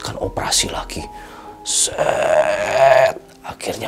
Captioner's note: made a dramatic sound